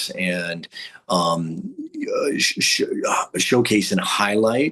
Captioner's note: stammering